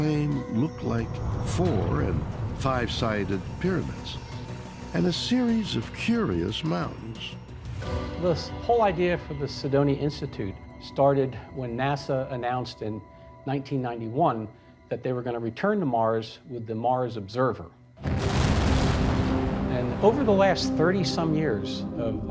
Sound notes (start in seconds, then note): 18.0 rocket launching